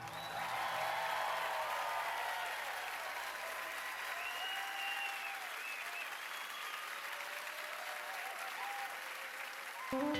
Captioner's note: cheers and applause